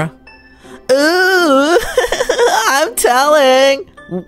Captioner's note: giggling